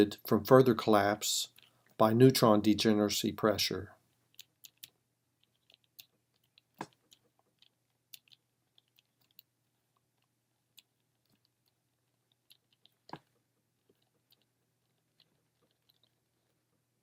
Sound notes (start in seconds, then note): 4.6 typing